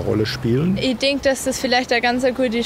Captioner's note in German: weibliche Stimme